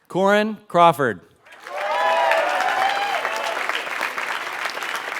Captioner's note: applause